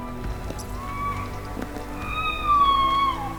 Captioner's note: elk bugling